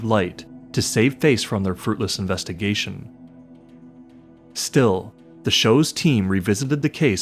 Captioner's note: none